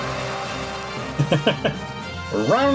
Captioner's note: audience cheering; laughs